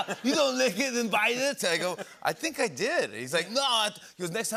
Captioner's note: normal voice